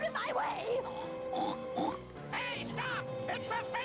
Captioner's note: snorts